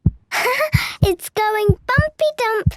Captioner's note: heart beating